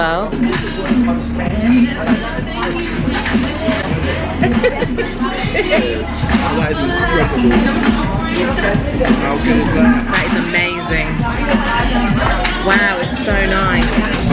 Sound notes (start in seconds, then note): 0.3 upbeat background music; 4.8 laughing